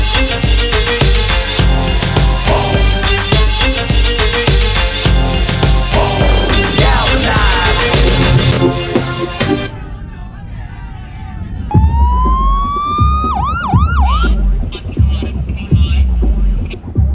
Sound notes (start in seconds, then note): 9.7 crowd clamor; 11.6 siren wails; 14.3 chatter over police radio